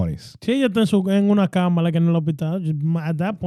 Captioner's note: speaking In Foreign Language